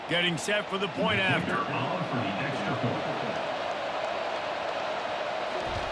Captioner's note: cheering, applause